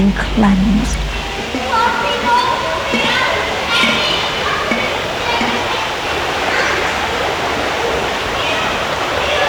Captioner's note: running water continues; pop; children yelling, bubbles popping